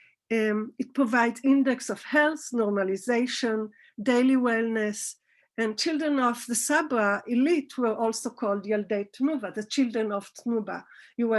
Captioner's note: Hebrew